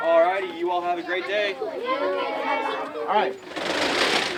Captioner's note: students chattering